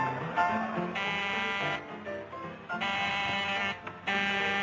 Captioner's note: buzzing